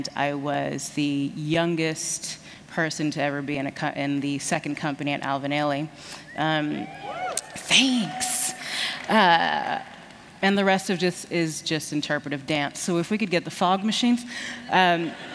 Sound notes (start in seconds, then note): 6.8 cheers; 15.0 laughter